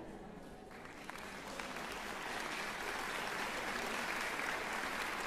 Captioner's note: applause